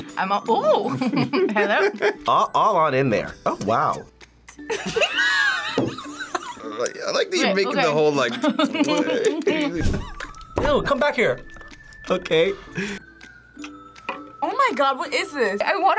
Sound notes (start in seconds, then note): 1.0 laughs; 4.7 both laugh; 9.1 smacks lips